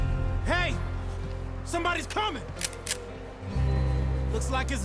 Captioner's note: cocks his rifle